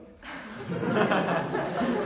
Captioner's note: laughter